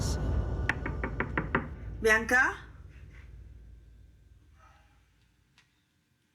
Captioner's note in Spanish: Toques en la puerta